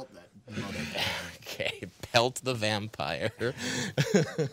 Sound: laughing

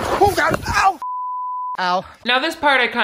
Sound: beep

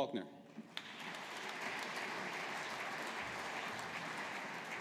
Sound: audience applauding

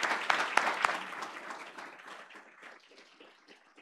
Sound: applause

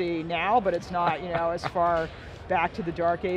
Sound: chuckles

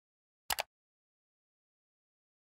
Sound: click

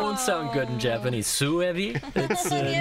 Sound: japanese

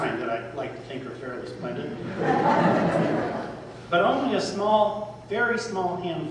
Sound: laughter

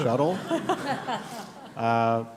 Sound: laughter

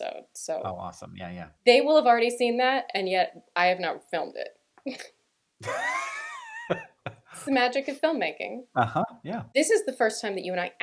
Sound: laughter

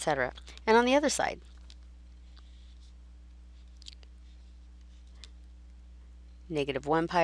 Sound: silence

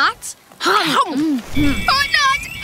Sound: chewing

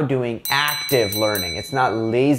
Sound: bell ringing

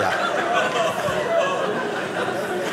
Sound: audience laughing

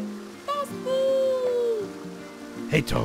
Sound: child's voice

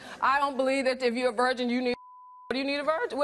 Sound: beep

